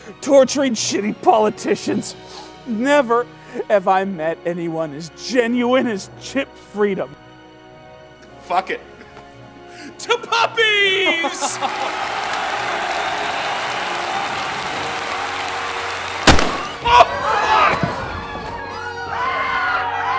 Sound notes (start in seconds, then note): 11.5 crowd cheering; 16.2 gun firing; 17.3 crowd screaming